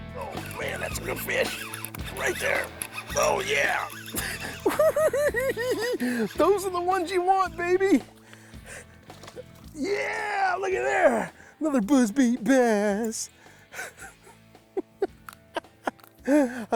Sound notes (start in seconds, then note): 4.3 cackles; 13.7 laughs